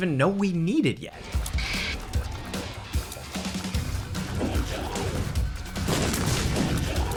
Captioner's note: aggressive music; tears splatting; bombs boom